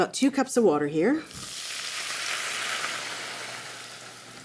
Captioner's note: sizzling